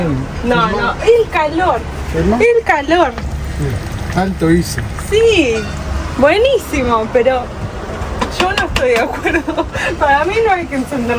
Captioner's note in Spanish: risas